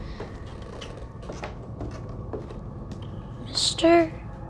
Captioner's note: none